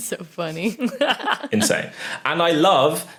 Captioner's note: laugh